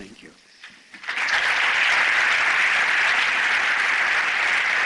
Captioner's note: applause